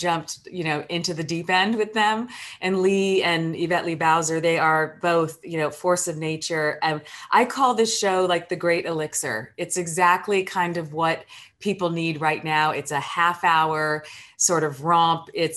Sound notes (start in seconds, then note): none